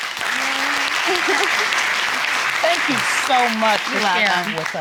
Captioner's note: audience applauding